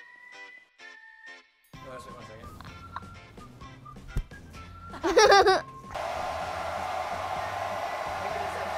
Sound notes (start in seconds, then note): 4.9 laughs